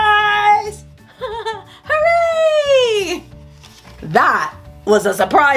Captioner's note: laughs